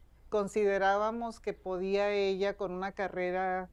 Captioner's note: speaking spanish